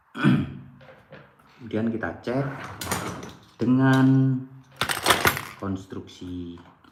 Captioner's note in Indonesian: berdehem